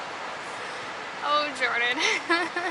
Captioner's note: giggles